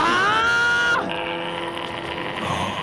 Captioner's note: gasp; nefarious gargling